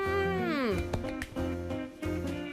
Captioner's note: chuckling; clapping; upbeat music